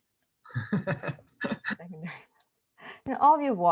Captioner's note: laughing